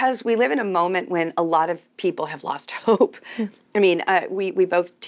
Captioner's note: chuckles